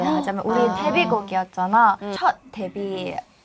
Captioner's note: Shhh